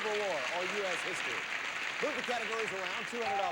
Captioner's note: audience applauding